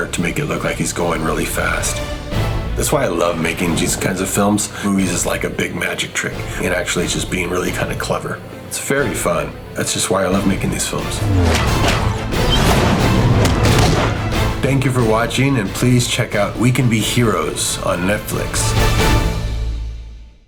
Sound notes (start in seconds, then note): 10.9 arms humming; 13.4 hands thump